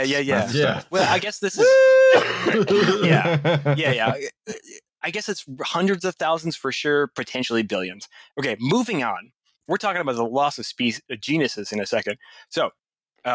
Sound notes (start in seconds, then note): 2.2 laughter